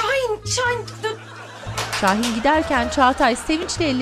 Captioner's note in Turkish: Alkış Sesi